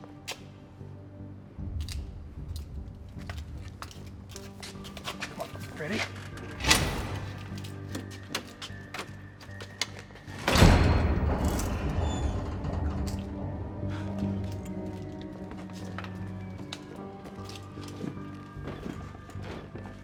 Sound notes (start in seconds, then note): 1.6 intense music continues; 10.1 door clanks and squeaks; 16.3 intense music continues